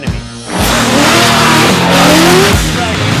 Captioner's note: engine revving; rock music